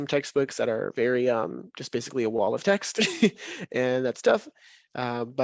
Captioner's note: chuckles